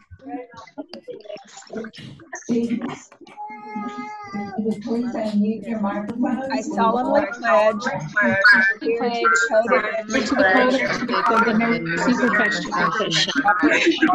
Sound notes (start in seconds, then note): 3.3 baby chattering; 8.0 students reciting